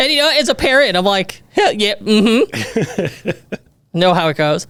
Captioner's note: laughs